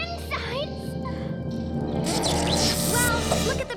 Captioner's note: growls; electronic buzz